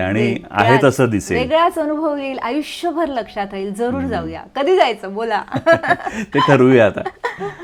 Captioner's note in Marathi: हास्य